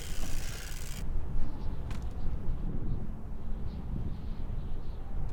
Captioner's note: wind rustling